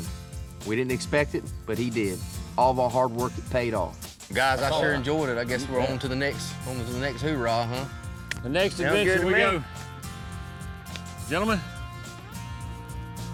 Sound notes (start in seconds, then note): none